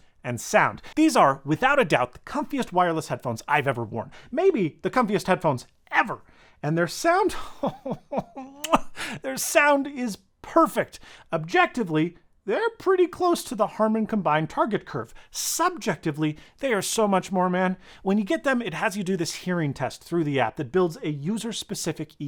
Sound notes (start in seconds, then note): 8.5 muah